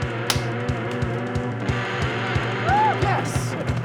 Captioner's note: energetic music; hands slapping; hands slap